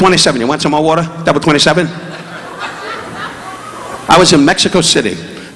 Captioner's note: audience laughing